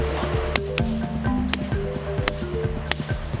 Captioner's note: thud thud thud